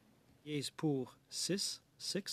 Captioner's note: speaking French